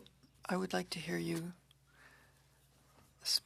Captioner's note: speaking French